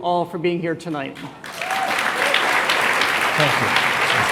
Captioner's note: applause